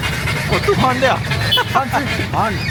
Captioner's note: laugh